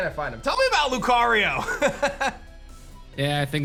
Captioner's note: laughs